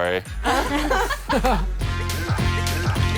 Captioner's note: laughing; upbeat music